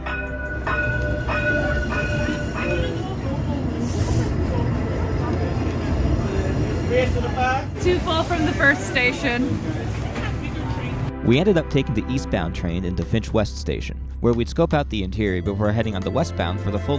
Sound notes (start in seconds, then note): 0.0 train rings bell; 4.0 sucks in air through grated teeth